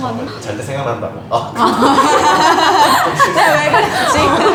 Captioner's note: laughs